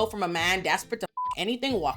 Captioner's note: beep